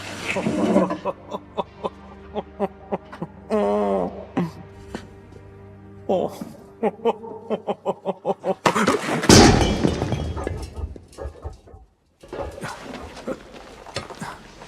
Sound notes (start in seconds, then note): 1.0 Booth guffawing; 4.0 triumphant music playing; 9.2 clangs